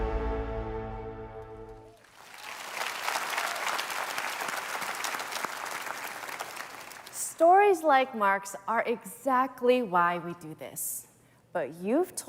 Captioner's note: applause